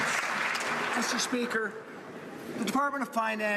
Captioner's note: some Applause